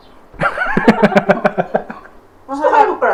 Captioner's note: laughing